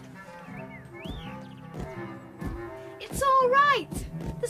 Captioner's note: thumping feet